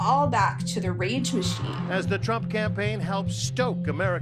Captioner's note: soundbite of archived recording